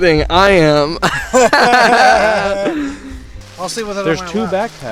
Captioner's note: both laughing